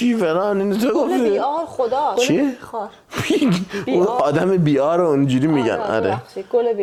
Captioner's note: laughs